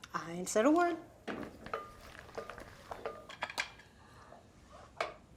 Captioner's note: spoon clanking